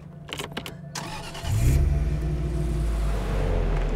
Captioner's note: engine starting